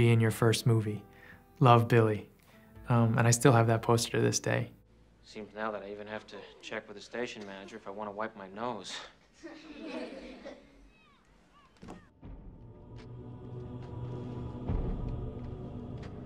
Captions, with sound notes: in your first movie, love Billy," and I still have that poster to this day. - Seems now that I even have to check with the station manager, if I wanna wipe my nose. [children laughs] [creepy music begins]